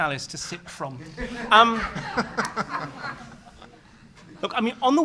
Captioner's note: laughter